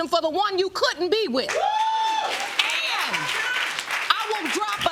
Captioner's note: audience whooping